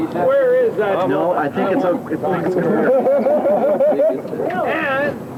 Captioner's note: water sounds